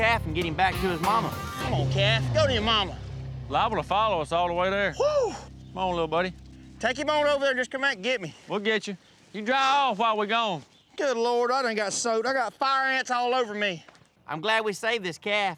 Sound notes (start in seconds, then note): none